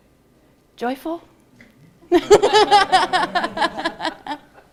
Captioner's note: laughter